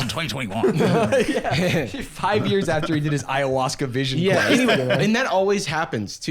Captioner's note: laughing